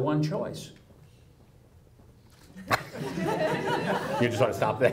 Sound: audience laughs

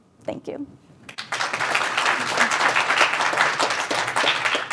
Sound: audience clapping

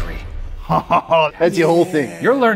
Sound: chuckles

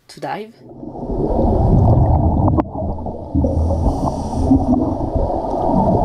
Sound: bubbles sound

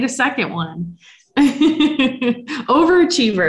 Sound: laughs

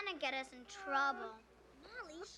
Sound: molly cries

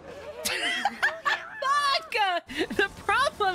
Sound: laughter

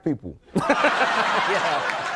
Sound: audience laughing

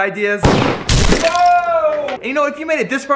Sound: gunshot and crashing

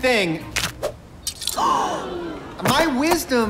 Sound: all gasp

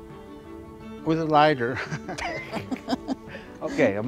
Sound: both laughing

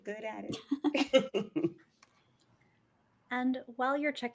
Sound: chuckling

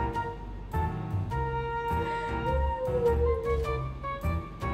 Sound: hmm

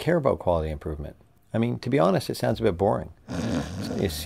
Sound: snoring

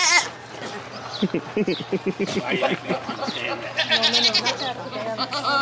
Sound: laughs

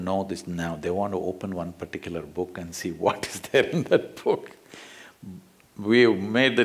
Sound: laughs

